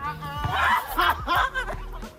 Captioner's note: laughing